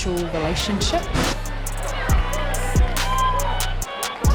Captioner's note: crowd cheering